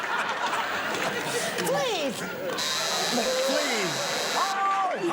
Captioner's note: long buzzing